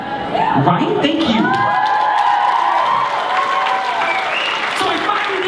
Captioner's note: cheering